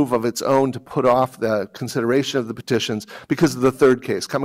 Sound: none

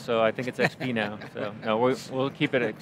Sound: laughing

